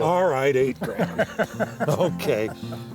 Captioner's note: laughs